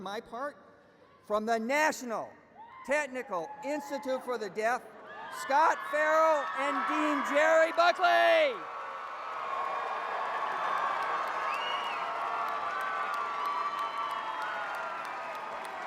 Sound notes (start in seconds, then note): 12.5 cheers and applause